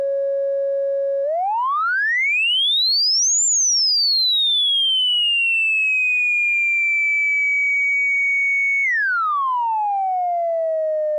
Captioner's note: modulated 550 Hz sine wave playing